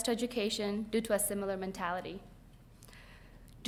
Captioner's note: none